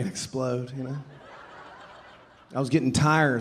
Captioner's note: audience laughing